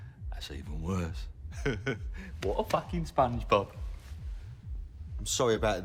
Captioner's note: chuckles